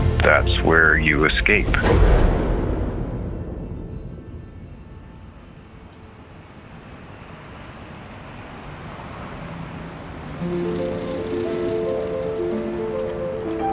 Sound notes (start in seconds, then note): 6.5 traffic sounds; 10.2 piano music playing